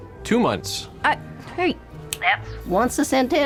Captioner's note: snaps fingers